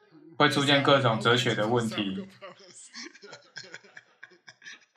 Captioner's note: laughs